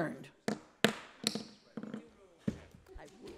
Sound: gavel banging

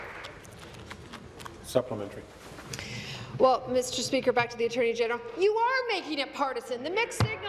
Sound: applause

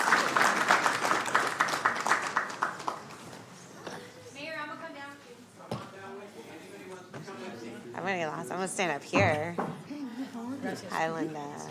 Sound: applause

